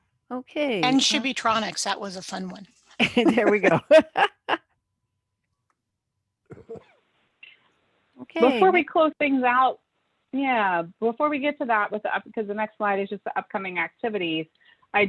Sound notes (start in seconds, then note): 3.0 laughs